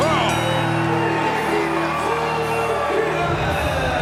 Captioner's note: bell ringing